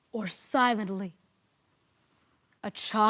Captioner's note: rustling